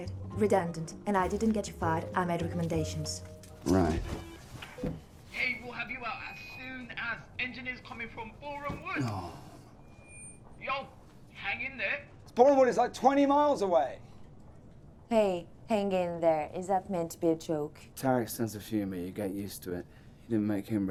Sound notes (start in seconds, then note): 8.9 sighing